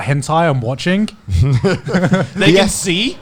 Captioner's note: laughing